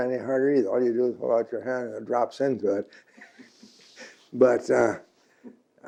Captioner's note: laughs